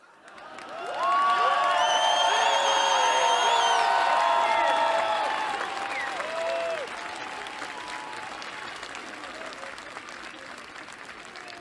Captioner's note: applause